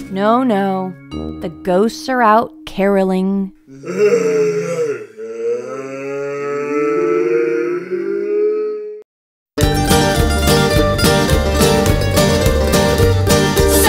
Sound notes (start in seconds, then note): 3.7 ghosts groaning; 9.6 upbeat western music